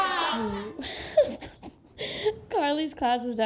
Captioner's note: laughs